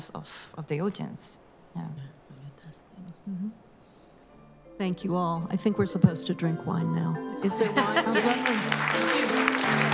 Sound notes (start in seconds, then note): 7.6 laughter; 8.0 applause